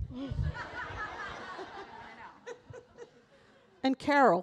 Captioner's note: audience laughing